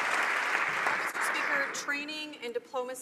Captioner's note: some Applause